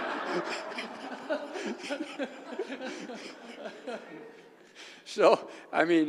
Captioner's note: laugh